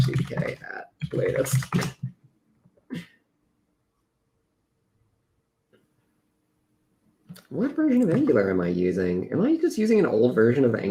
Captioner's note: laughs